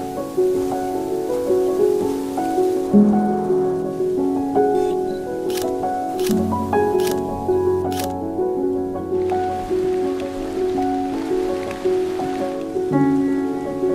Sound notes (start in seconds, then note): 0.2 calm music continues; 5.4 camera snapping; 9.7 raindrops pattering